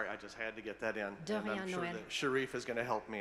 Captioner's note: speaking foreign language